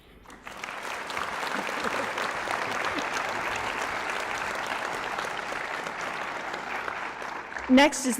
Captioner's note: applause